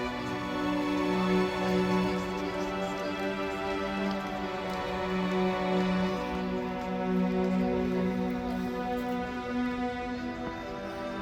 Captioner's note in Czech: Potlesk